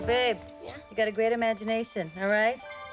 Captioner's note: none